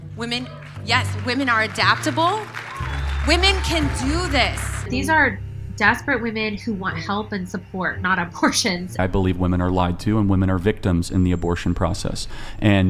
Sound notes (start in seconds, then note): 4.2 crowd cheering